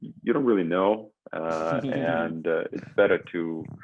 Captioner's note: chuckles